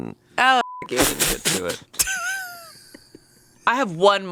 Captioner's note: beep; laughs